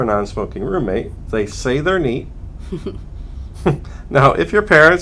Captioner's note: laughter